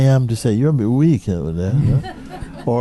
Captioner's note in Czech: smích